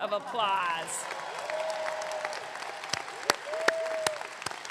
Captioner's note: audience clapping